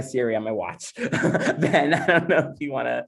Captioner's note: laughs